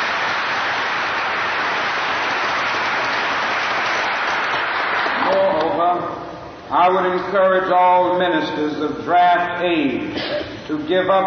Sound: applause

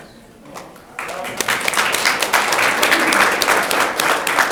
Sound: audience clapping

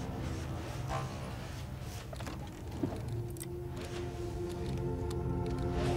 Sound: oxygen machine hums

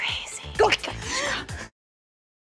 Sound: speaking russian; gasps

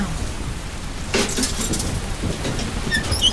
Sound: rain pounding; phone clattering; door creaking

